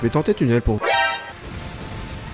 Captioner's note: Metal Gear Solid sound alert